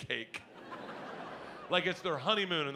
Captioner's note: audience laughs